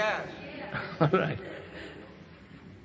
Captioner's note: laughs